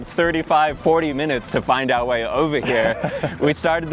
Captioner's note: laughter